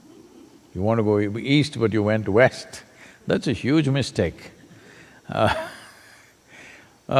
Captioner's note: laughs